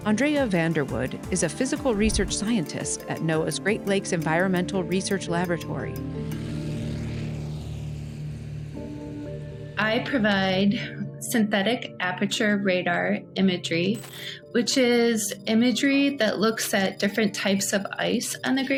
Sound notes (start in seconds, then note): 5.5 engine rumbling